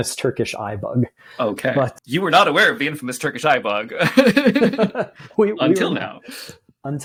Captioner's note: laughter